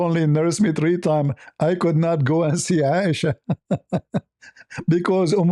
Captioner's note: ketawa